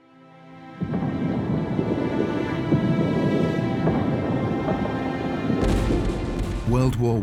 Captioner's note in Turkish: çoklu patlamalar